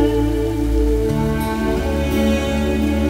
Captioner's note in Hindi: none